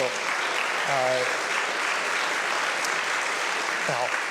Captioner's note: applause